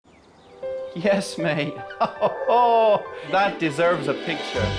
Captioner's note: laughs